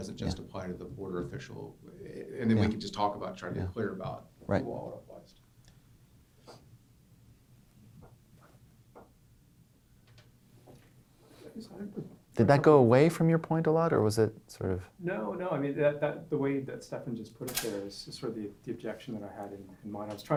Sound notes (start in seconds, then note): 0.0 voiceover; 15.0 voiceover